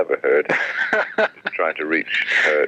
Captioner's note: laughs